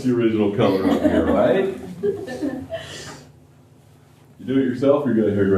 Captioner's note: laughter